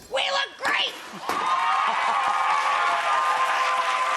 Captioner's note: crowd cheering